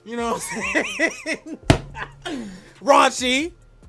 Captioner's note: laughing